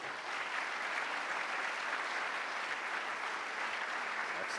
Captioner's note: applause